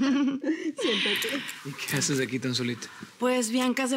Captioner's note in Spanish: Risas